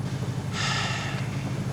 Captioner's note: sighs